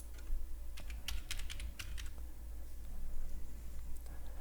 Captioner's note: keys typing